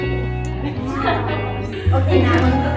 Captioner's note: laughter and chatter